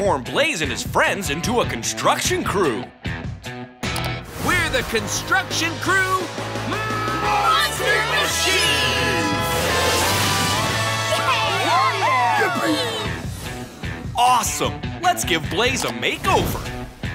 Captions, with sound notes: and his friends into a construction crew. We're the Construction Crew... Monster Machines! [cheering] Awesome. Let's give Blaze a makeover.